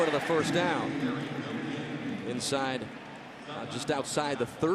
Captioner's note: pa announcement